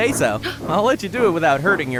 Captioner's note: gasp